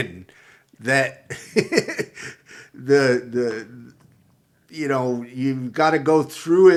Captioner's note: laughs